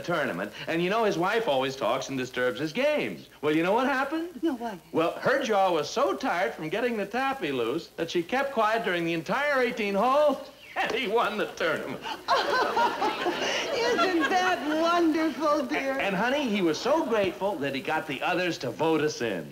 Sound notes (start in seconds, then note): 11.3 laughing; 12.0 Joanie laughing